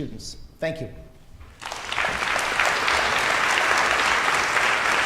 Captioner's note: audience applauding